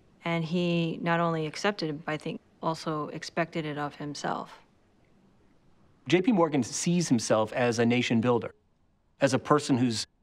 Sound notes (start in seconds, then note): none